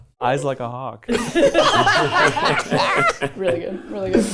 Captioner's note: everyone laughing